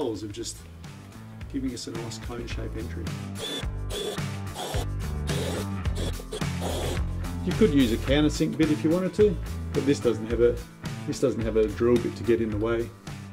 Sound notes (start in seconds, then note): 3.4 calm music; 3.4 drill revving